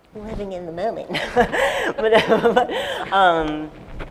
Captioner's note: laughter